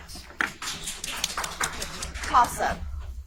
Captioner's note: audience applauds